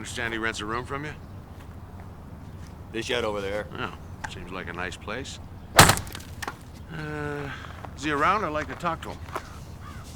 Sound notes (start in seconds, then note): 5.7 thudding